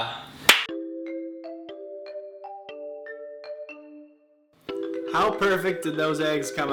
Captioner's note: chiming bells